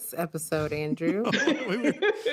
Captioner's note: laughter